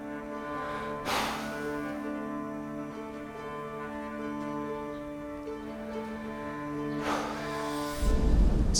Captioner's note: deep breath